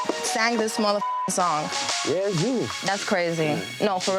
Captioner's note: beep